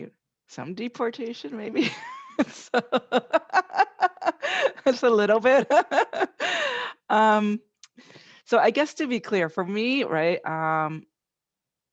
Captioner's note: laughing